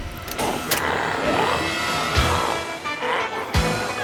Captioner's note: glowzies growling; energetic music